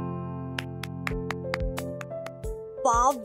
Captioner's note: clapping